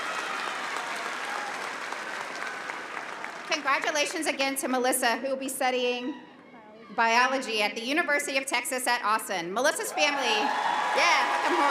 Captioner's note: applause